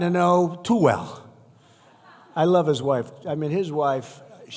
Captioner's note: laughter